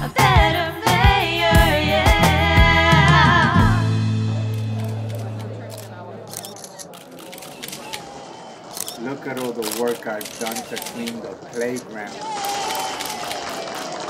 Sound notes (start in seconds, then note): 4.9 cameras shuttering; 4.9 people talking